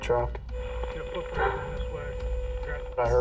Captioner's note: bark